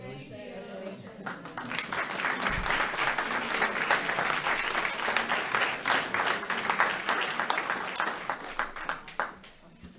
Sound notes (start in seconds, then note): 1.2 audience applauding